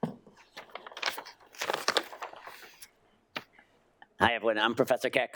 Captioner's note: paper crinkling